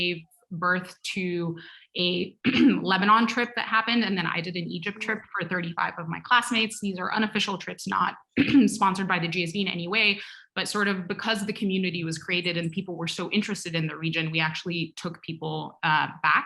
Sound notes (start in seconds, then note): 2.4 cough; 8.4 cough